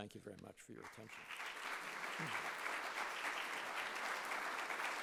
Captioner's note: audience applauding